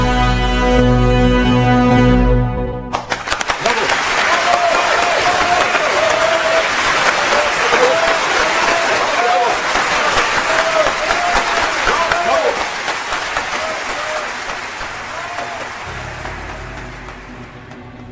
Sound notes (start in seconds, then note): 2.9 applause